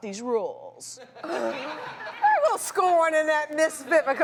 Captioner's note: audience laughs